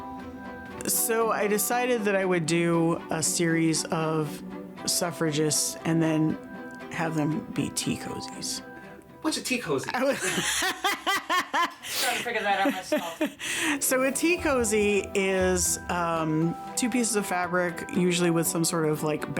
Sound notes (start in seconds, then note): 9.9 laughs